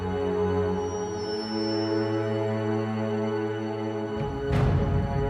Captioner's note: high pitched frequency